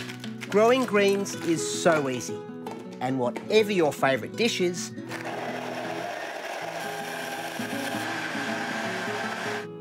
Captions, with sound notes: Growing greens is so easy. And whatever your favourite dish is... (BLENDER WHIRRS)